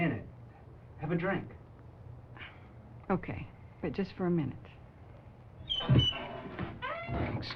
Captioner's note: sighs